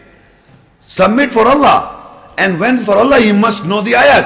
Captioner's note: Arabic